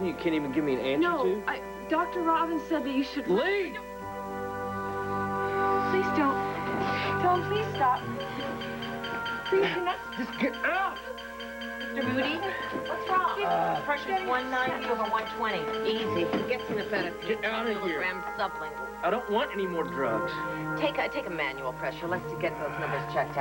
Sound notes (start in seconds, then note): 9.5 monitor beeps